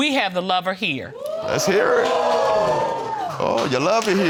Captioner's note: audience hooting